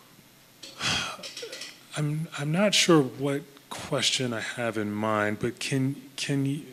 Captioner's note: sighs